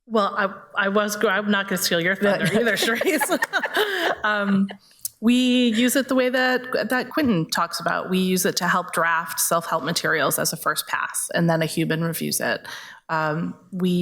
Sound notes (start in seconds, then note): 2.4 everybody laughs